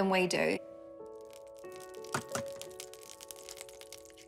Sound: oil sizzles, crackles

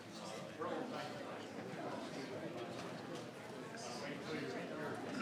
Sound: audience members murmuring faintly

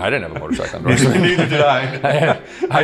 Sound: laughter

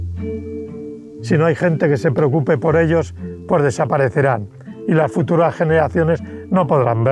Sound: speaks in foreign language

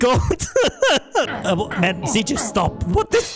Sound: lolz x5; stutter

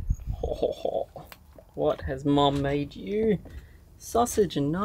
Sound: chuckles

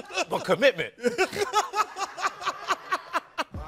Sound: laughing

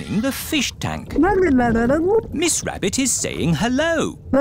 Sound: gurgling

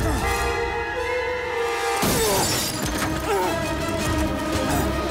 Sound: grunting, shattering

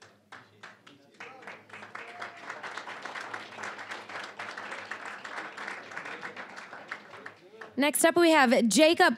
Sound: applause

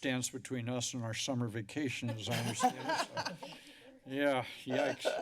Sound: laughs

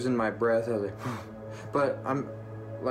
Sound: exhales

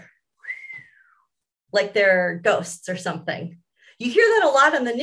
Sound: mimics wind whistling

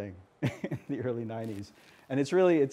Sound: laughs

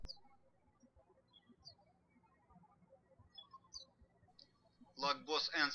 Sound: birds chirping

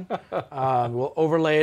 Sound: chuckles

